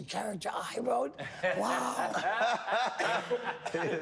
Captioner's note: all laughing